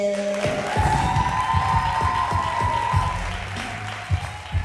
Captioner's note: cheers and applause